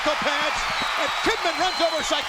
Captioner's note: crowd cheers